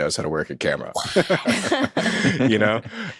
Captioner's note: and hosts laughing